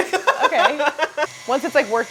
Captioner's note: laughing